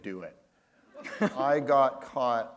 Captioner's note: laughter